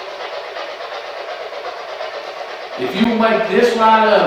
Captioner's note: white noise